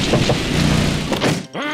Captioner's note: knocks